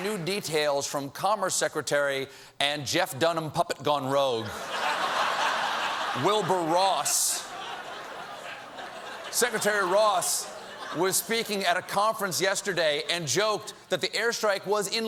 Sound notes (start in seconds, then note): 4.5 laughter